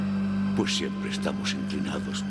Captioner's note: Spanish